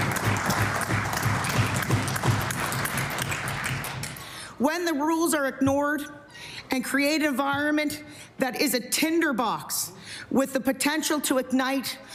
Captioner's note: applause